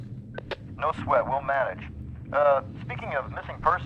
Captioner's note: voiceover